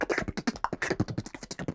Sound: beatboxing

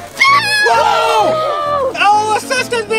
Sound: screams

